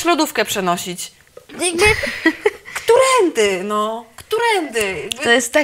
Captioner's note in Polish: śmiech zażenowany